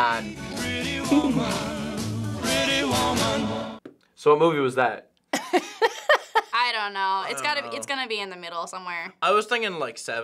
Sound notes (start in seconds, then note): 5.4 laughs